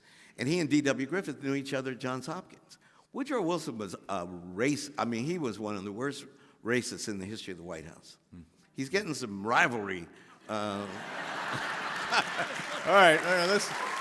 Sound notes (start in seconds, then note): 10.6 all laughing